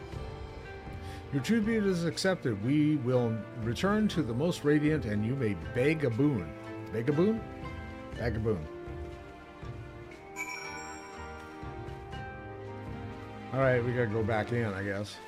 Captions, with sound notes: Your true being is accepted. We will return to the most radiant and you may beg a boon. Beg a boon? Beg a boon. (bell ringing) All right, we gotta go back in, I guess.